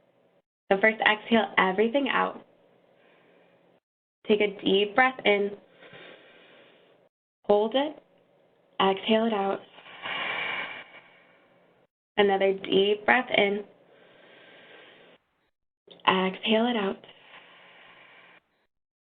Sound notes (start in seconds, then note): 9.8 exhales deeply; 13.8 inhales deeply; 17.4 exhales deeply